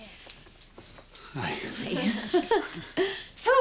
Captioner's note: laughs